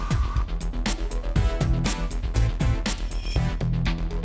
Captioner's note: none